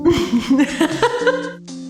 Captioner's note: laughing